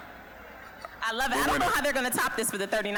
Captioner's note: general chatter